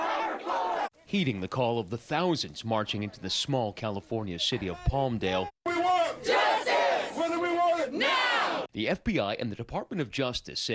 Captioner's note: crowd chanting